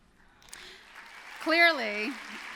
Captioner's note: applause